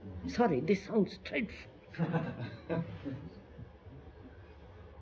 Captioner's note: laughter